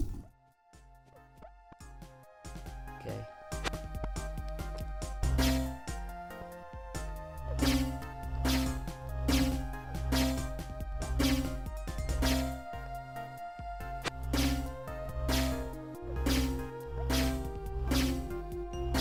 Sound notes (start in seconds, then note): 0.2 lighthearted music; 5.4 twanging sound; 15.2 twanging sound continues